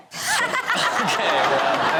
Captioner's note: Chanel laughs